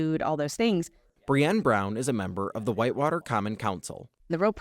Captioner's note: voice-over